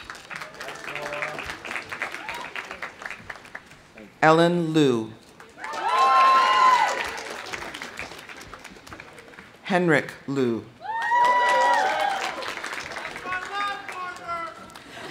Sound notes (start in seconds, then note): 0.0 audience applauding; 2.1 audience whoops; 5.4 audience applauding; 5.5 audience cheering; 10.8 audience cheering; 10.8 audience applauding